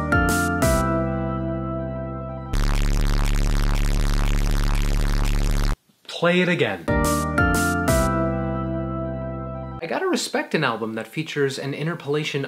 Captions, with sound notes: (upbeat music plays) (loud feed back sound plays) Play it again. (upbeat music plays) I got to respect an album that features an interpolation